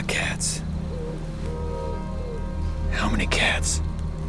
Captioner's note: owl hooting